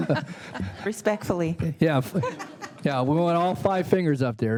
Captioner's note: laughter; laughter